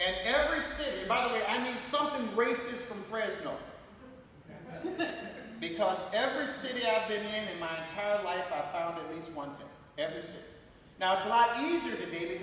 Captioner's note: laughter